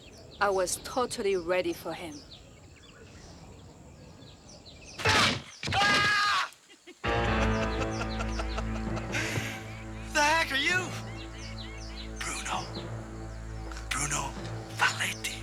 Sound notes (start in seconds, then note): 4.9 door bangs; 4.9 man yells; 5.9 Roger screams in fear; 6.9 laughing manically